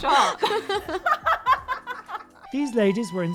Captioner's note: all laugh